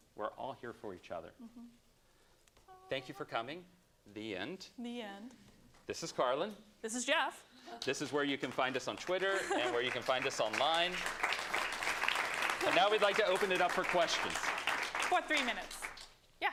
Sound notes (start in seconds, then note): 10.8 applause